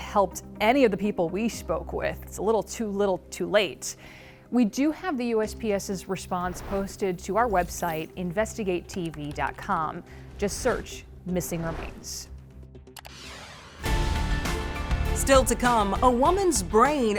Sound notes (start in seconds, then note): 12.6 thrilling music; 12.9 mouse clicking